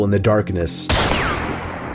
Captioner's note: pew pew